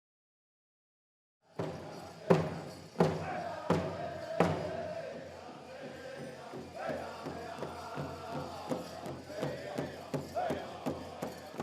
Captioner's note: drum beating, men chanting